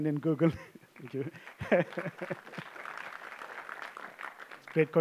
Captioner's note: applause